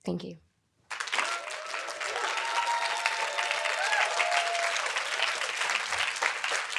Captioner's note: audience applauding; audience cheering